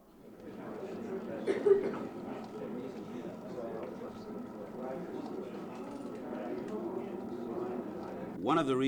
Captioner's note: meeting noise